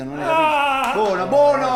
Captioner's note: screams in pain